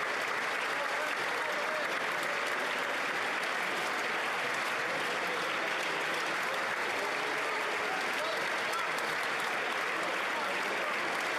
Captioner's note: applause